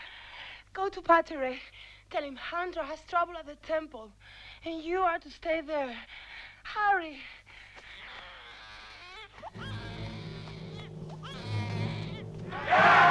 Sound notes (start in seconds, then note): 7.9 baby crying; 9.5 dramatic music; 11.4 chieftains cheering